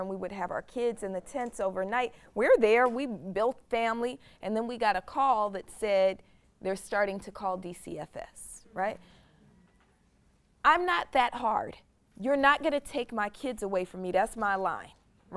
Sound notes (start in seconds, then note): none